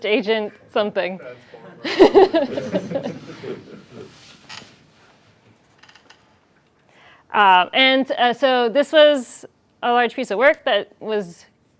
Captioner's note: laughter